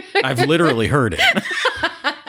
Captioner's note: laughter